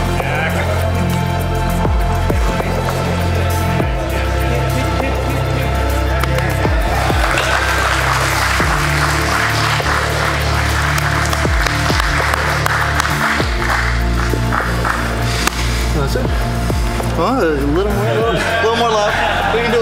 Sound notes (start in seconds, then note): 6.2 spectators applauding; 11.1 clapping